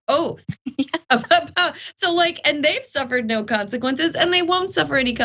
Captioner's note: laugh